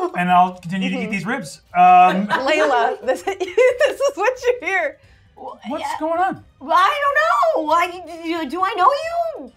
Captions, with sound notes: And I'll continue to eat these ribs-- - Leila (laughs) this is what you hear. - What's going on? - Well I don't know. Do I know you?